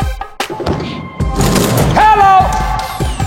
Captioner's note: dunk sound